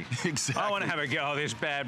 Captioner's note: laughter